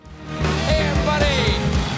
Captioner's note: band playing; cheers and applause